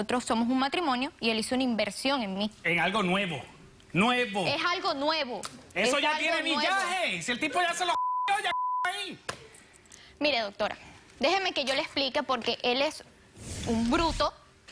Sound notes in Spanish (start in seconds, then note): 7.9 Bip